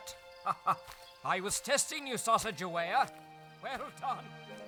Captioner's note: laughing